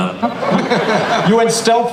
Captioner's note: laughter